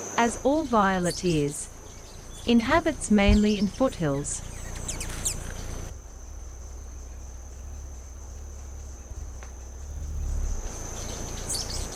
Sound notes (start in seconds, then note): 4.4 bird's wing flapping; 5.1 birds chirping; 6.7 bird's wing flapping